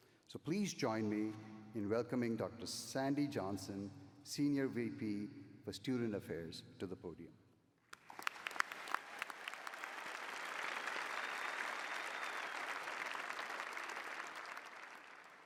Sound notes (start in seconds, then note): 7.9 applause